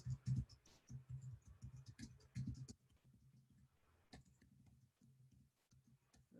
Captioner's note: typing Sounds